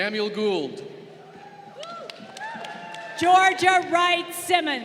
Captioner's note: crowd cheering